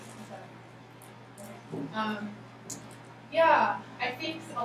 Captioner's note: speaking softly